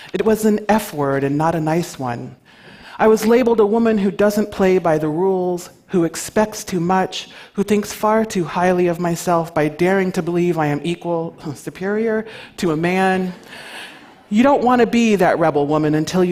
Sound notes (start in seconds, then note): 11.7 coughs